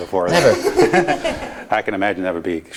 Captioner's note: laughing